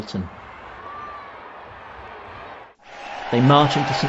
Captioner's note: crowd chattering